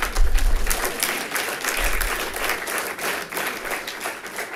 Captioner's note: people clapping